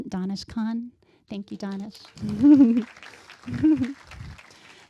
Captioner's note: applause